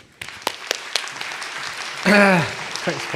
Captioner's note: applause; with British accent